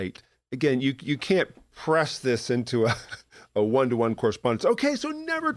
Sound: chuckle

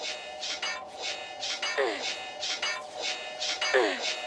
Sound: noisy blades

